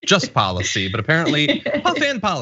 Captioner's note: laugh